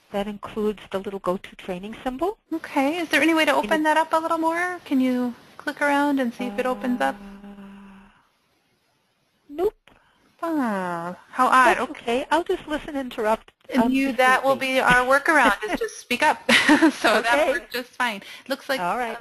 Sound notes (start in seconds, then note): 2.6 voiceover; 10.4 voiceover; 14.1 voiceover; 16.5 chuckles; 17.6 voiceover